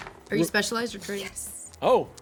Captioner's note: faintly speaking